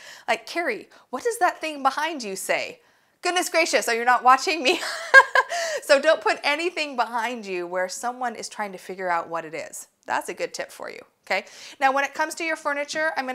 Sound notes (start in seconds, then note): 4.8 laughs